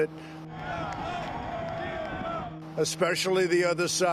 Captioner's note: crowd cheering